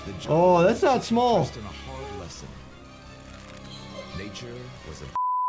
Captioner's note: beep